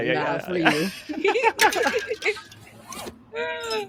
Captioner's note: laughing